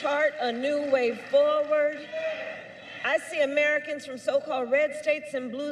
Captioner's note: applause